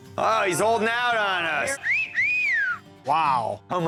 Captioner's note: wolf whistle